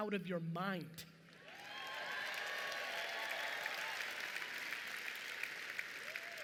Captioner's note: audience cheering and applauding